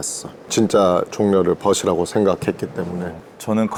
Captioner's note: sorrowful